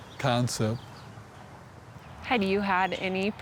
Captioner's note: birds chirping